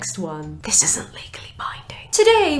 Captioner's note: whispers